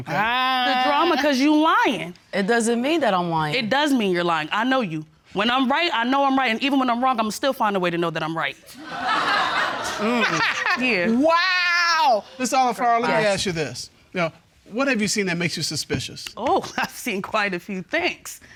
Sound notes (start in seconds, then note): 8.7 laughter